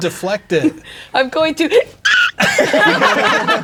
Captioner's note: gasps, then shrieks; all laughing